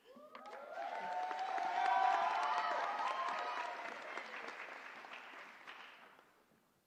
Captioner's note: applause